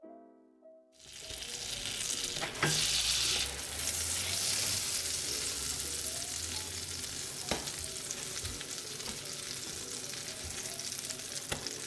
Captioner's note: frying sound